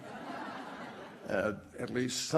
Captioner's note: laughter